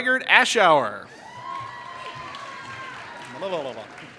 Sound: applause

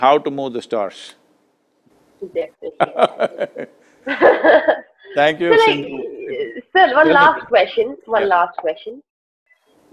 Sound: laughs

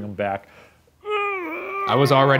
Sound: grunts

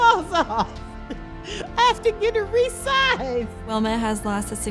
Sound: chuckles

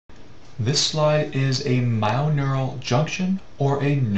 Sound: voiceover

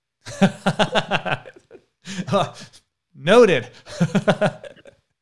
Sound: laughs

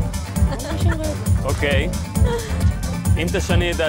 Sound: laughing

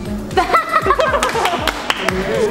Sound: failed to hold laugh

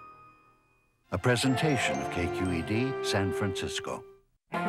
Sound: voiceover

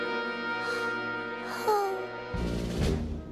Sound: adorable sigh

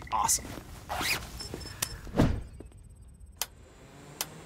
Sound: coat zips; dial clicks

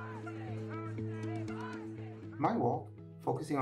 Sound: crowd cheering

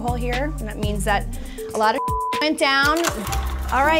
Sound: computer bleeps

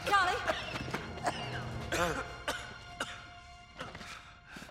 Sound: coughing

